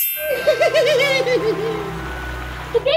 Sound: laughter

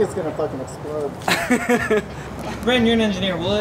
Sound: laughter

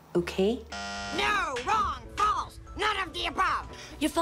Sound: bzzzt

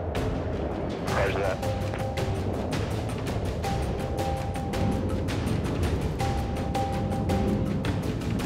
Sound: jet engines

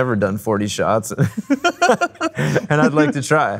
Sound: laughing

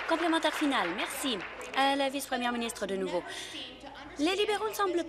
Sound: applause

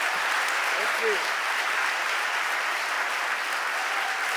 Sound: audience applauding

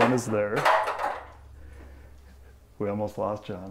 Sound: clattering sound

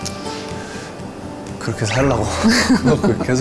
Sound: haha

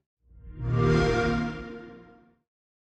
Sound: xbox sound

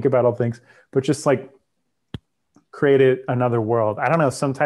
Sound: soft thud

